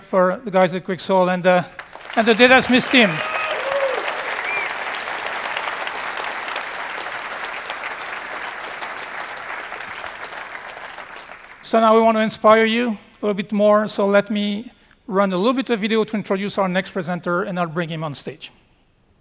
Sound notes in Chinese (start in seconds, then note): 3.1 喝彩; 3.1 鼓掌